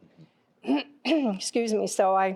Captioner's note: clears throat